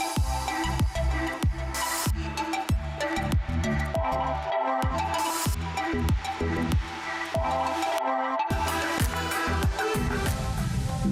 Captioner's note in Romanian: Aplauze